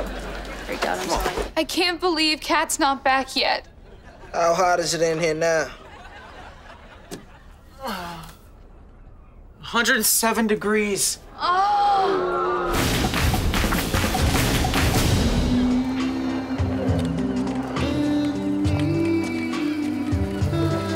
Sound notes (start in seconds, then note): 11.4 groaning